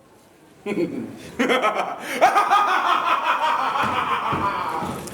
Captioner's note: laughter